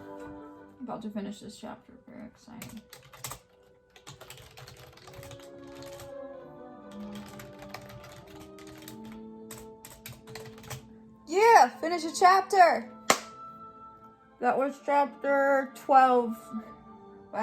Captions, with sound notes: I'm about to finish this chapter, I'm very excited. (keyboard clicking) (classical music) Yeah, finished a chapter! (claps) That was chapter 12.